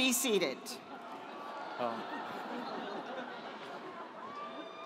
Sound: audience laughs

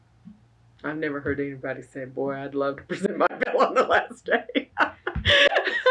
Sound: laughs

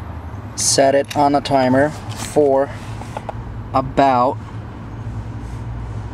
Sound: phone clicks

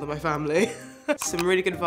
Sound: laughs

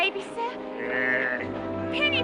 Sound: scrooge grumbles

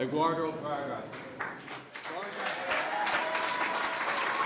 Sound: clapping

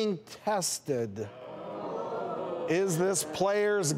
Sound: boos

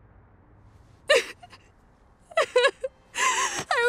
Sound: sobbing

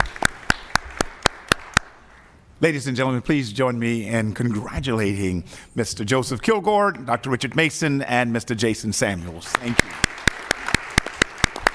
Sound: applause

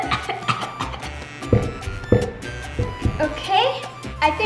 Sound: upbeat music; coughing

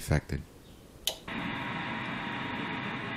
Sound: radio turned on; radio static

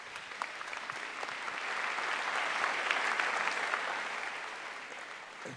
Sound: applause

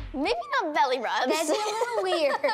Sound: laughs

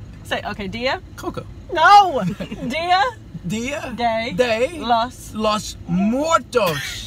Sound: laughter

